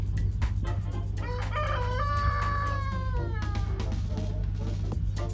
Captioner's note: rooster crows